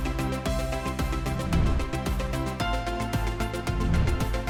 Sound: air whooshing; air whooshing

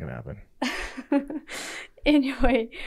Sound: laughing

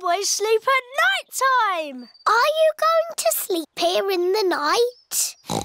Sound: oinks

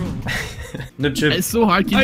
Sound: laughter

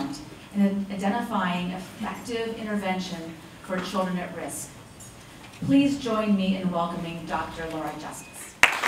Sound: applause

